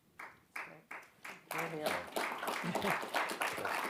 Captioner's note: audience clapping